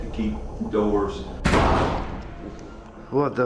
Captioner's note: door slamming